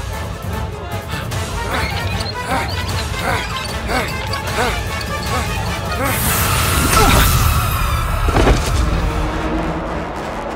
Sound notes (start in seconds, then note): 1.1 grunting